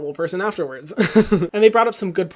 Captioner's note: laughing